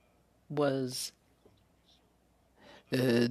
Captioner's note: speaking French